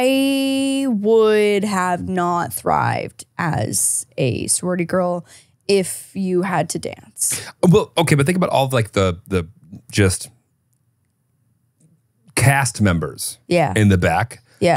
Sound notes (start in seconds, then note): 7.5 laughs